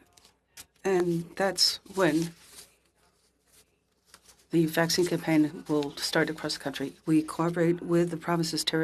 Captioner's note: speaking French